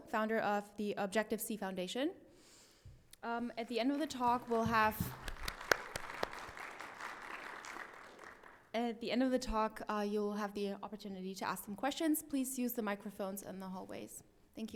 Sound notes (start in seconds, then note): 4.0 audience applauds